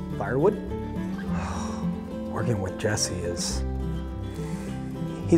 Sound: exhales

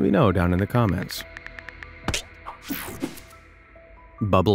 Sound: cell phone keyboard clicking

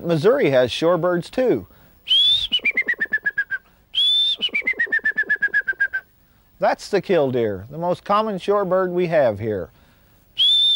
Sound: bird call

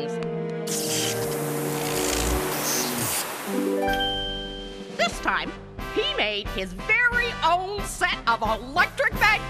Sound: welding sounds

